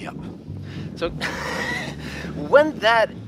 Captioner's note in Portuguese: risos